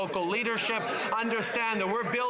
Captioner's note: some Applause